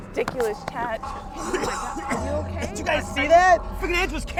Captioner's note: coughing